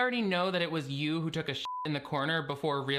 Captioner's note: beep